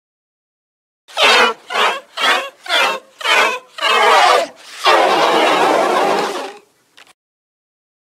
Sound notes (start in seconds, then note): 0.0 laughing creatures